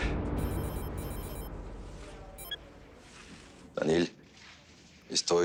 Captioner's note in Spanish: Suena el celular